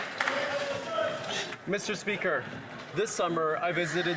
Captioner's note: some Applause